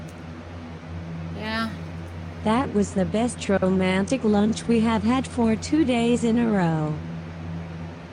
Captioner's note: normal voice